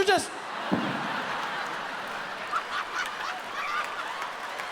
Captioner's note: audience laughs